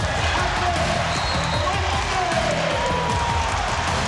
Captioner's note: cheering